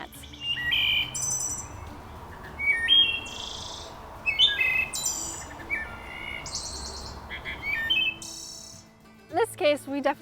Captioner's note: thrush calls playing on speaker